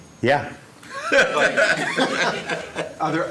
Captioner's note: laughter